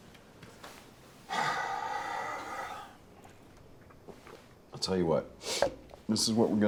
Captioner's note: sighs heavily